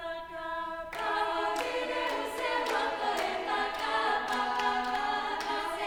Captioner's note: chorus members clapping in time